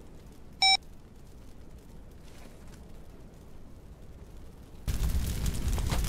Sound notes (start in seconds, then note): 1.5 fire crackling